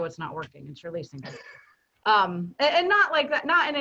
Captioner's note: chuckles